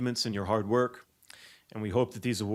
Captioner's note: none